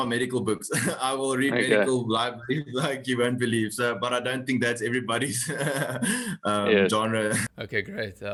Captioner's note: laugh